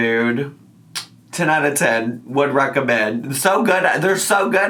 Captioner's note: lips smack